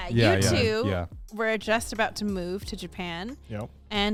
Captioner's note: men laugh